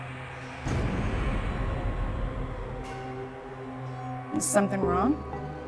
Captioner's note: werewolves howling